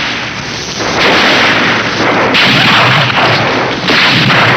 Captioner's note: gunshots blasting